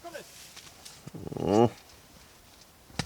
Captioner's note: grunts